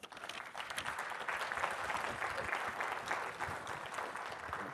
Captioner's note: audience applauding